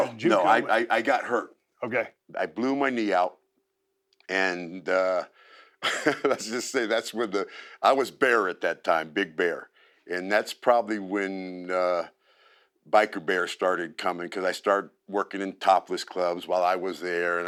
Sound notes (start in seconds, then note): 5.8 laugh